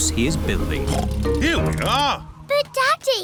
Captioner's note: oinks